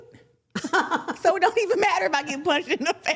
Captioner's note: laughing